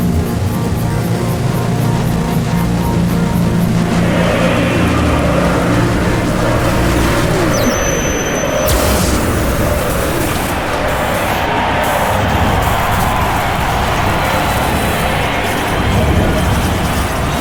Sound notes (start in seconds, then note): 11.6 crowd cheering